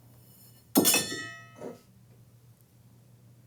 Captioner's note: clang